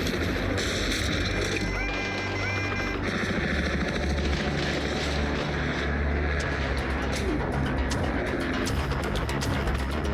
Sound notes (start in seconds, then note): 1.6 alarm blaring